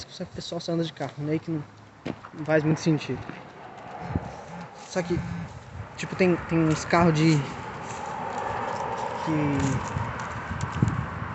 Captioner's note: brrr